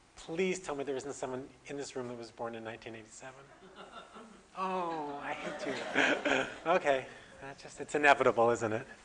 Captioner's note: audience: Laughter